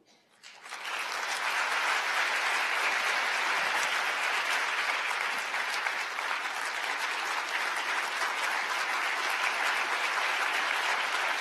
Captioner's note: applause